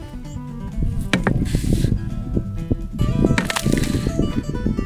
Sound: hammer banging

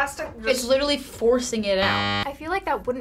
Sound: buzzer

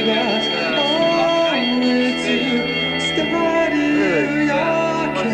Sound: alarm bells ring

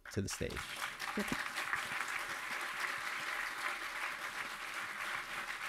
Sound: audience applauding

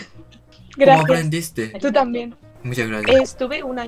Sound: Spanish

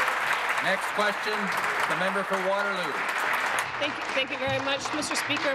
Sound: applause

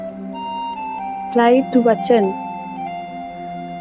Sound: sanskrit word

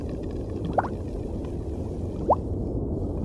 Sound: bubbling sounds

